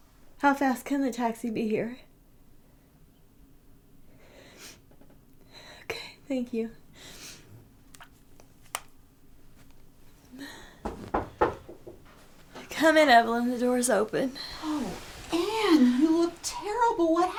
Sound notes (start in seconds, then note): 4.4 sniffling; 10.8 knocking